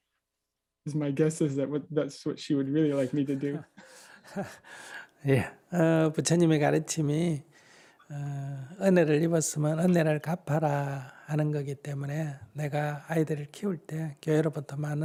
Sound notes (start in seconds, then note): 2.8 laughter